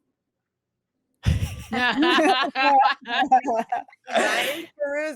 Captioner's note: all laughing